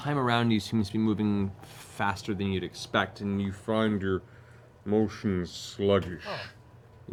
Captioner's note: slow-mo voice